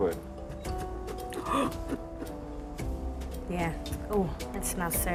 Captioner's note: gasps